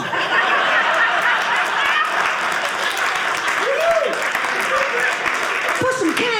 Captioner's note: audience cheering